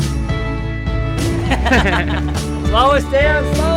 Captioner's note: laughs